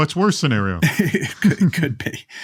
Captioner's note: laughs